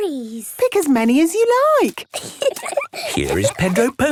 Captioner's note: giggling